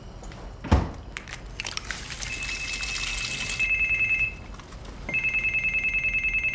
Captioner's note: egg cracks; beeping